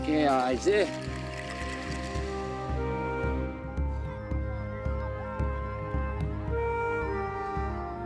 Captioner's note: tense music; speaking in native language; calming music